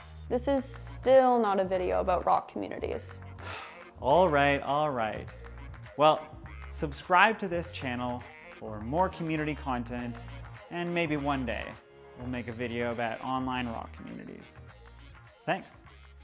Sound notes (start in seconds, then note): 3.4 sighs